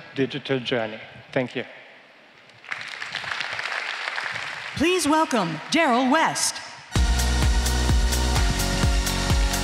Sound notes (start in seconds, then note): 2.6 applause